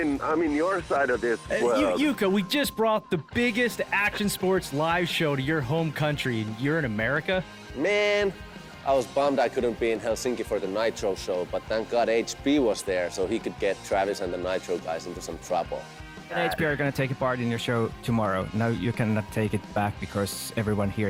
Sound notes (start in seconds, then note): 0.0 on phone; 15.9 on phone